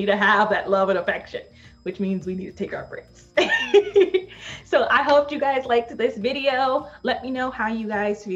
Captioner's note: laughs